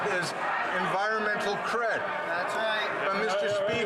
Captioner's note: crowd Noise